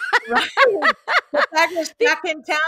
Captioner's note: laughs